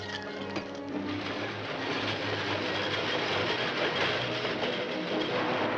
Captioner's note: dramatic music; train cars rumbling